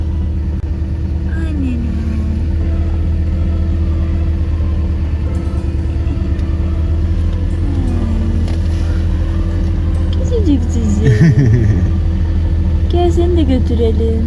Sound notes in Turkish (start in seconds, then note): 11.0 Gülüşmeler